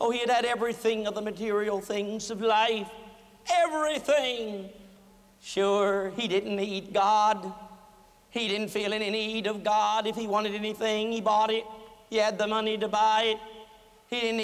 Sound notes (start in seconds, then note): none